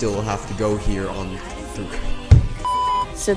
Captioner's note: stutters and slams desk